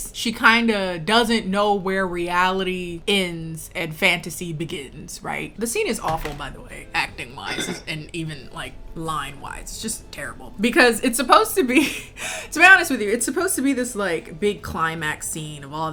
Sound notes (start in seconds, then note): none